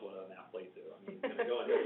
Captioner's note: laughs